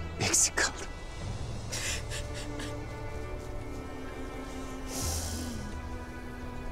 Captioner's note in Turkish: Ağlama sesleri